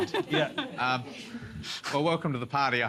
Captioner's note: laughter